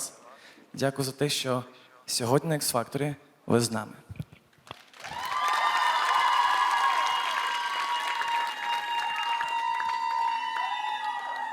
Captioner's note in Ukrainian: оплески